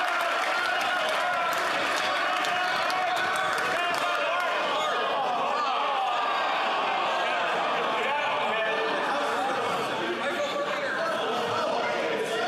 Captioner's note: yelling; cheering